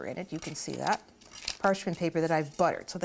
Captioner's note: paper scraping